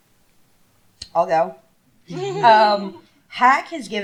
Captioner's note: laughter